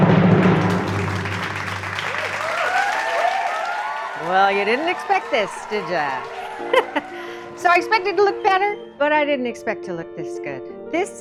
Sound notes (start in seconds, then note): 0.0 audience applauding